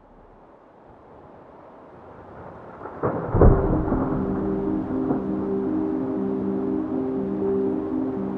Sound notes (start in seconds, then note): 2.2 thunder rumbling; 3.2 heavy rain whooshing; 5.4 somber music